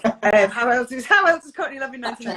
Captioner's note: laughs